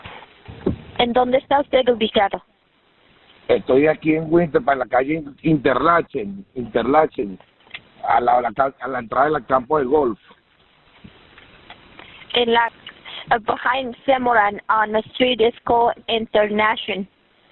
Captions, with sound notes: (Woman speaking in a foreign language) (Man speaking in a foreign language) Interlachen Interlachen (Man speaking in a foreign language) Behind Semoran, on a street that's called Interlachen